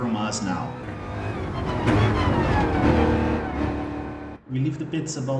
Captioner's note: engines revving, cars noises